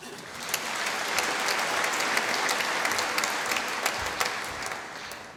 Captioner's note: applause